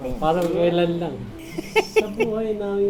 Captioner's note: laughs